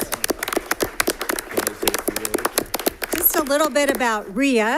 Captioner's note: applause